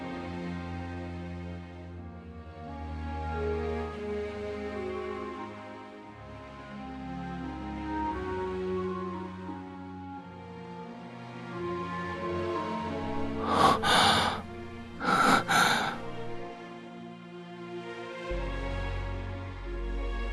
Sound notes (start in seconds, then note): 14.9 gasps